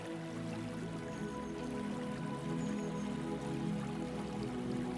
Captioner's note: water trickling